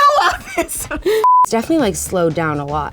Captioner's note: laughing; beep